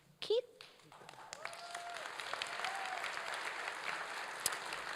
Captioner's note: applause